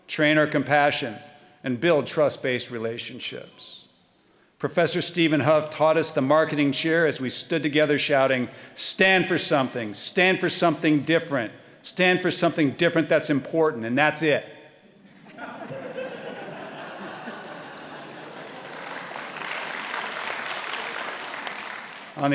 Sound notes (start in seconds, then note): 15.1 audience laughing; 19.4 audience applauding